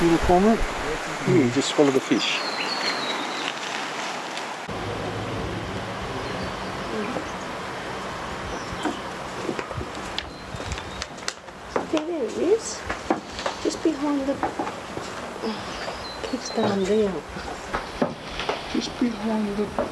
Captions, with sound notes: See the little cormorant? He just swallowed a fish. there he is just behind the *sighs* keeps going down just behind the